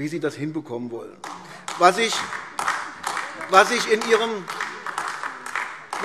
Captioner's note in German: Beifall AfD